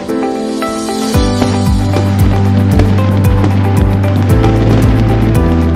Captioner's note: soft pop music; fireworks explode